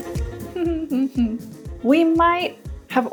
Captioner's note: humming